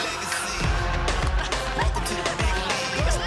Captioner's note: laughing